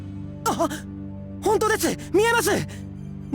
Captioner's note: gasp